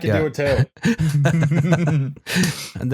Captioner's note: laughter